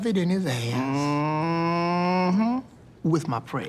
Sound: Peele mmhmms

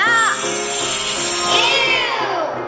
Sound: sparkling

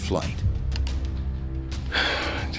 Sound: heavy sigh

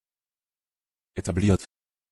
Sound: fast Pronunciation

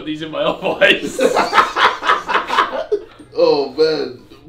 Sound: laughs

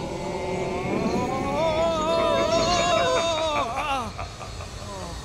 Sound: sinister laughing

